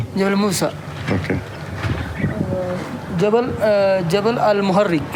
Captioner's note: man answers in Arabic